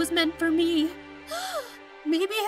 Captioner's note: gasp